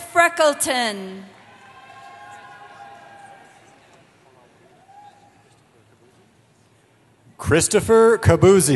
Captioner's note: cheering